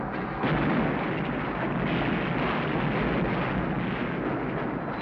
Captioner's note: saloon booms